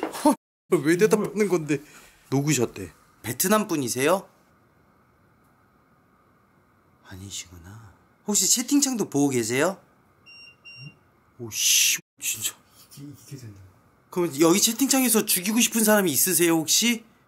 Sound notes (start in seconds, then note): 10.2 beeping